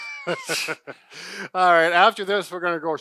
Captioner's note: laughs